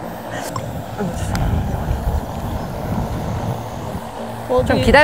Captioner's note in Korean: 우르르